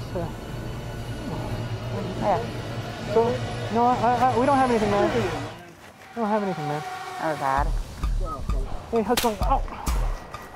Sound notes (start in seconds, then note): 0.0 intense scary music; 2.4 music drowns out speech; 9.1 gunshot